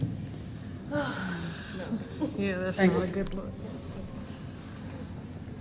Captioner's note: woman in the crowd sighs